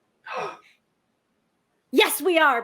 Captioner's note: gasps